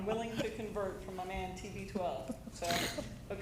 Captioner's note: laughter